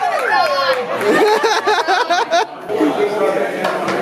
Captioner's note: laughing